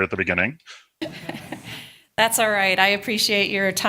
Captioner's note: laughter